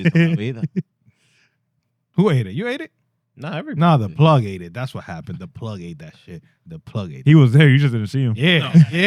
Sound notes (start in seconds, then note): 0.0 laughs